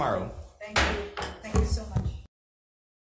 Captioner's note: gavel bangs